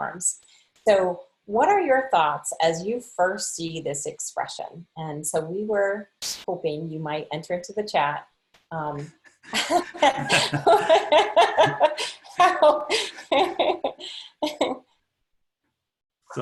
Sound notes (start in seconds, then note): 9.4 laughter